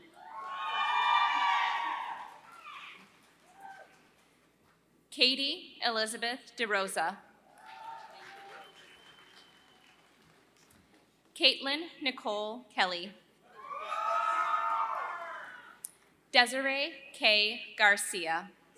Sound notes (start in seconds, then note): 0.1 applause; 13.2 applause